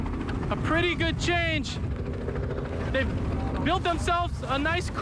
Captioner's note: helicopter chopping